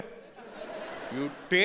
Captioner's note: audience laughing